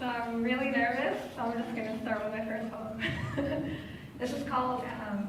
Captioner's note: laughs